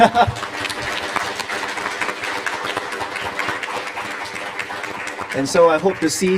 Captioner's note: applause